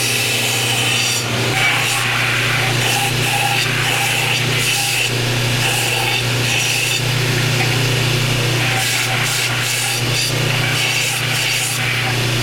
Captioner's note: sanding noise